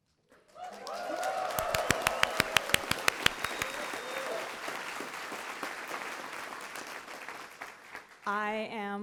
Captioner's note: cheering & Applause